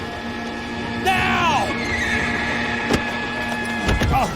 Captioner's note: horse neighs